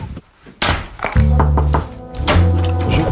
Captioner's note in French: toc toc toc